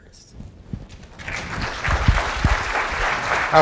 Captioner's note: applause